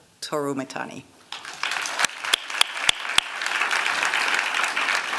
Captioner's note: applause